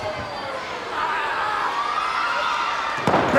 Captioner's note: Ric thudding on ring